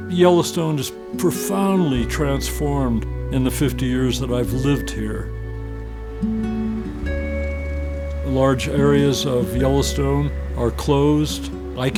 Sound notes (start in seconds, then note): 7.0 motor hums